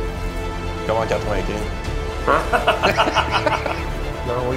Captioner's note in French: rires